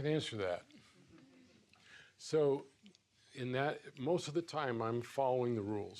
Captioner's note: laughs